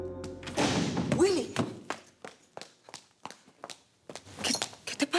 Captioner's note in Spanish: Portazo